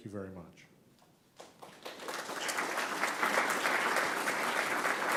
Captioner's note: audience applause